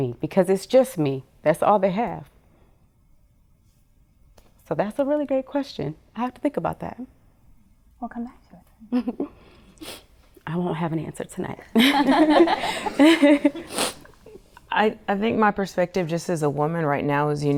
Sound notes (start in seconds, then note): 8.9 chuckles; 9.5 sniffs; 11.8 laughing